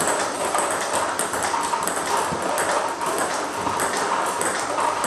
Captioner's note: ball ping pong hitting continues